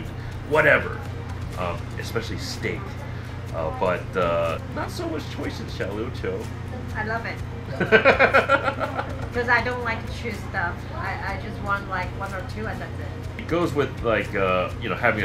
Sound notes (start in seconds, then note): 7.7 laughter